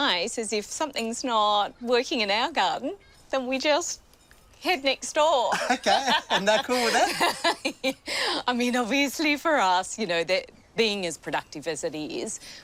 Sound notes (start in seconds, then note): 5.5 laughs